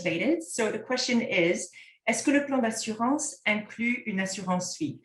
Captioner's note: content in French